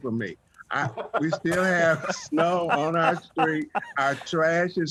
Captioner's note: laughter